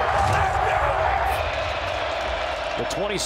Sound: crowd cheering

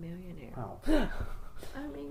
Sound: laughs

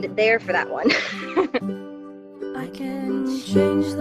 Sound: laughs

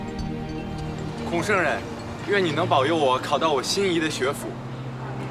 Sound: speaking Chinese

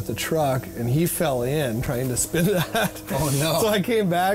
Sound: laughs

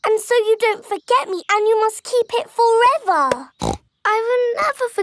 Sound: snorts

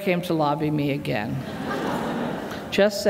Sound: laughter

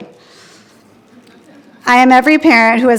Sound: attendees laughing

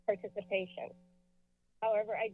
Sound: silence

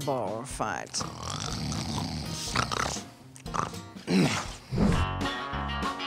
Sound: snoring

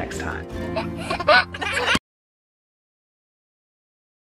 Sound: baby laughs

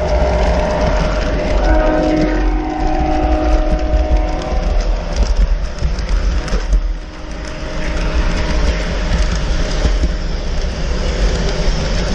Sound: train horn

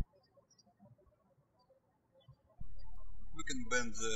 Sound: birds chirping

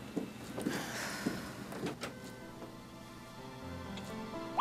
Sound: sighs; soul music

